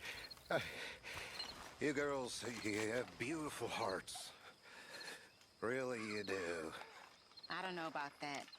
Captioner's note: breaths heavily